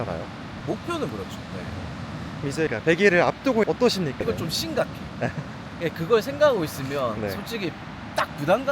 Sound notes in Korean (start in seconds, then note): 5.2 ㅋㅋ